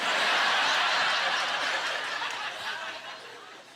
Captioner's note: audience laughter